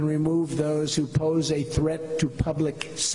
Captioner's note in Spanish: hablan inglés